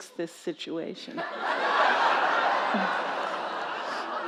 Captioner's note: laughter